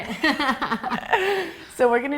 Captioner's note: laughing